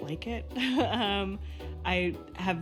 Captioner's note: she laughs